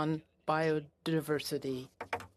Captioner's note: speaking French